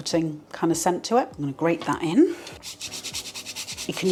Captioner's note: grating